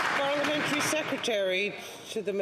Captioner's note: some Applause